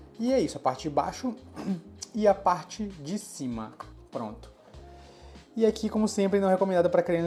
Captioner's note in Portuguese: limpando a garganta